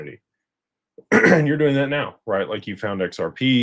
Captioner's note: clears throat